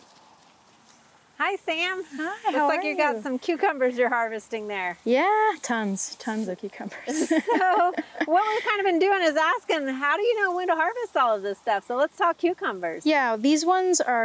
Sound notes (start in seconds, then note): 7.0 chuckling